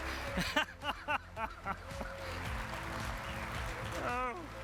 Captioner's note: laughing